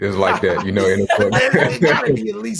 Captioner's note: laughing